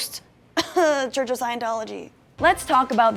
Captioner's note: coughs